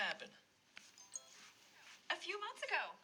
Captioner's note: notification dings